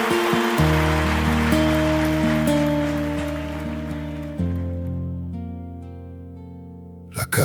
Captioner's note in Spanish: aplausos